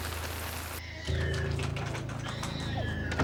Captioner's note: baby crying